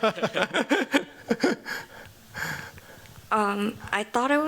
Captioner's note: chuckling